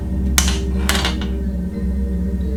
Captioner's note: clatter; mysterious music